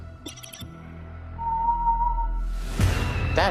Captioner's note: whistling